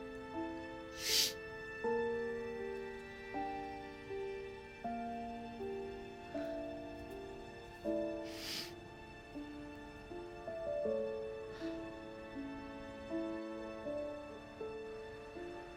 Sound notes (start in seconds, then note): 0.6 solemn music; 0.9 Bree sniffles